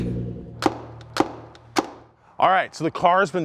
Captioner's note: thudding